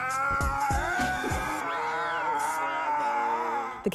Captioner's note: Will yelling